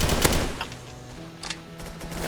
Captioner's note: click.mp3